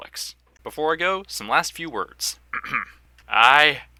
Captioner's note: ahem